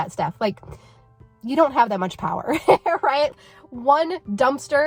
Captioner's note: laughing